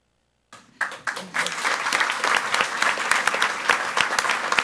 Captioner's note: audience applauds